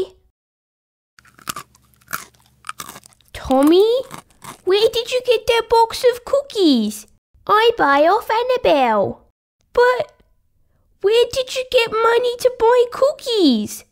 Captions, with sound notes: (Crunching) Tommy? Where did you get that box of cookies? I buy off Annabelle But... Where did you get money to buy cookies?